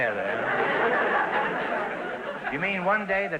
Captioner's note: audience laughter